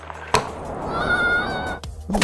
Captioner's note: screaming